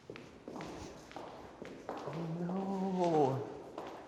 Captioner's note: footsteps echoing